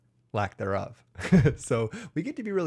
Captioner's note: chuckles